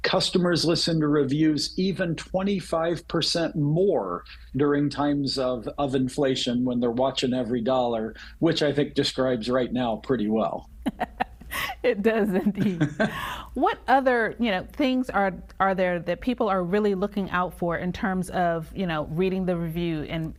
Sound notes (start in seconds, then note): 10.8 laughing